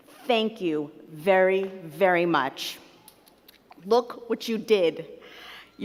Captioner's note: none